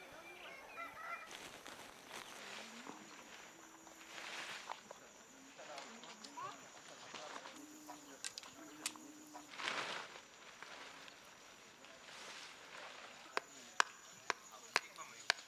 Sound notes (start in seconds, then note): 0.0 rooster crows; 0.3 tent fabric rustling on grass; 4.4 indistinct chatter; 7.9 tent poles clicking together; 9.4 tent fabric rustling; 13.3 stone striking tent pegs